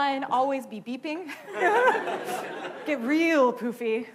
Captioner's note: laughing